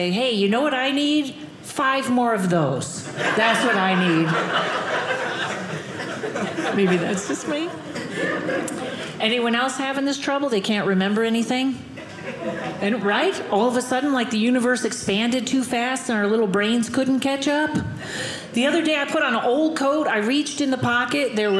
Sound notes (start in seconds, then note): 3.0 audience laughing